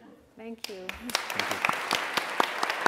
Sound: applause

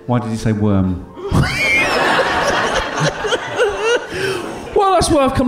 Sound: giggling

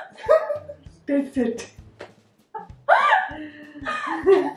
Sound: cackles; both laughing

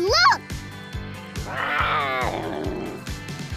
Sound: roaring

